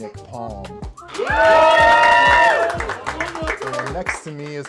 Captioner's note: cheers